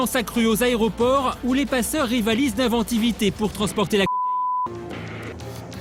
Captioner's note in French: bip